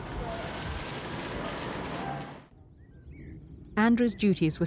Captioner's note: cameras clicking